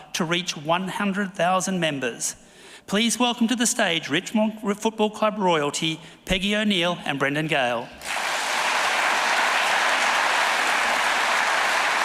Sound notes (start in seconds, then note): 8.0 audience applauding